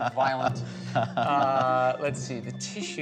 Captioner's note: laughing